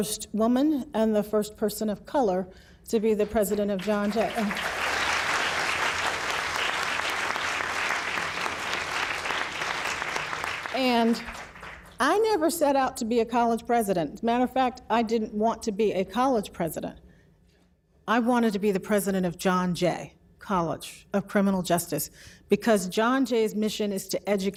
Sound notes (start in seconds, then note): 7.6 applause